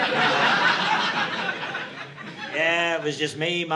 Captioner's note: audience laughing